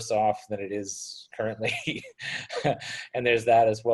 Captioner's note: laughs